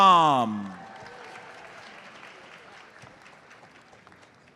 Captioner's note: audience applauds